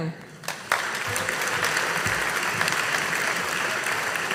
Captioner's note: audience applauding